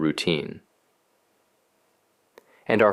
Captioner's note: pause